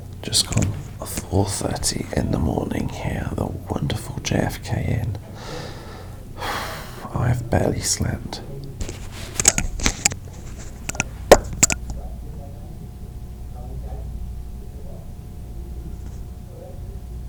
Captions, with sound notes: just gone off 4:30 in the morning here at the wonderful JFK Inn. (sighs) I've barely slept. (TV drones on faintly)